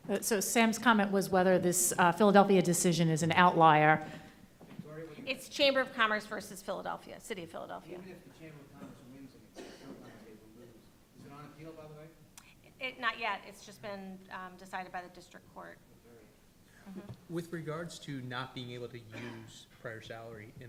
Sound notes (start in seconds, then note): 8.7 coughing drowns out voice